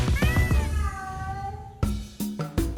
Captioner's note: peacock squawking; cat meowing; upbeat music